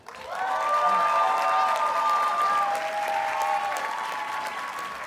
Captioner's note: audience cheers and applauds